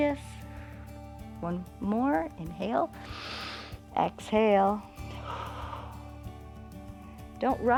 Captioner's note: exhales; inhales